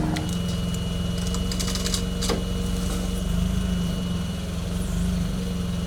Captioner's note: fork truck motor humming